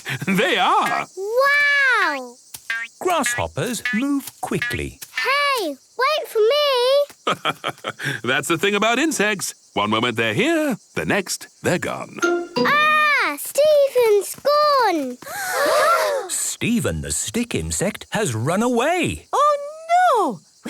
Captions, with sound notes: (laugh) - They are! - Wow! - Grass hoppers move quickly. - Hey! Wait for me! - That's the thing about insects. One moment they're here... the next, they're gone! - Ah! Steven's gone! (gasps) - Steven the stick insect has run away! - Oh, no!